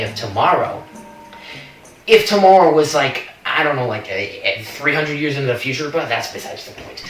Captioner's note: stammers